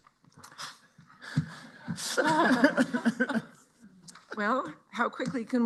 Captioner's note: laughter